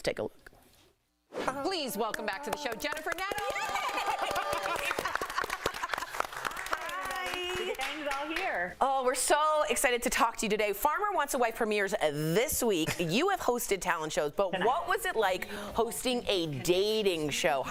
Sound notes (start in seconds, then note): 9.2 applause